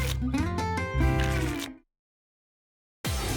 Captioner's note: tickets shuffling